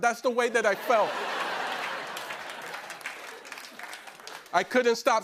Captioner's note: laughter